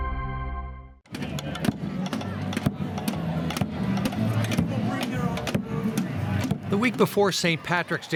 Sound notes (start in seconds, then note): 5.3 drums tapping; 6.7 crowd clamors